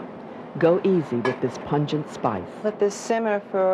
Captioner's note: voiceover